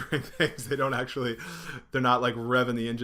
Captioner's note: laughing